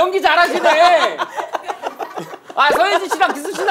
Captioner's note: laughing